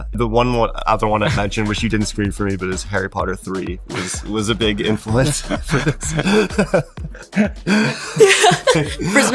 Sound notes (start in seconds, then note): 5.9 Daniel laughs; 7.6 laughs